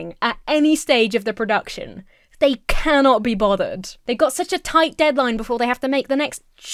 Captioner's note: none